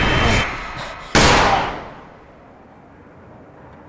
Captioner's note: gun firing